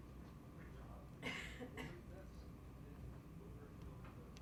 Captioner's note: coughing